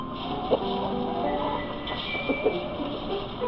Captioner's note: chickens clucking